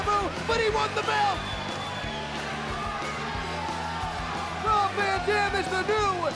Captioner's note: fan whistling